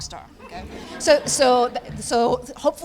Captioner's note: laughter